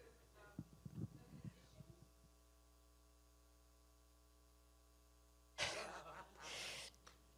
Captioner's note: speaking away from mic